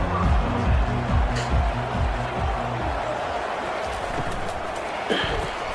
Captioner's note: crowd Noises